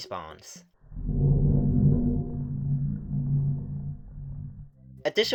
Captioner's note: soft, low-pitched metal scraping